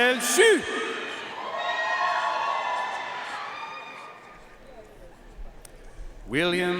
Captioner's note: audience cheering and applauding